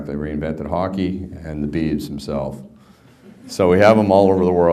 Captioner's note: background laughter